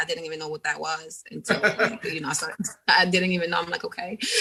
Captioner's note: laughing